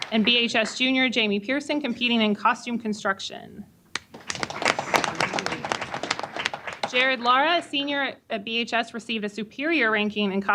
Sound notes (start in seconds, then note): 0.0 applause; 7.2 applause